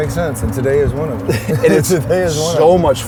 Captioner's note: laughs